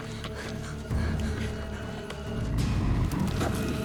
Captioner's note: hyperventilating